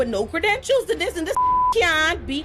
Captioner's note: beep